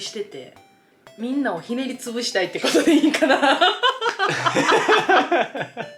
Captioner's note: laughter